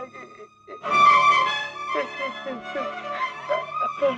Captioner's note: crying